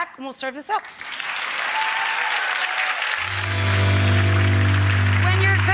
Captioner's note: audience applauding